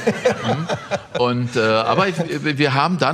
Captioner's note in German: Lachen